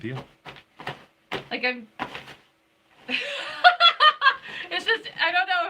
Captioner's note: laughing